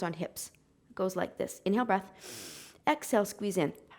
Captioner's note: exhaling; inhaling